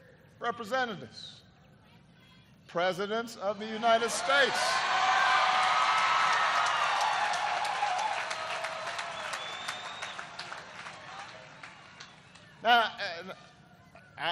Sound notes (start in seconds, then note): 10.0 applause